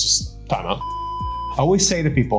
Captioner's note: signal loss beeping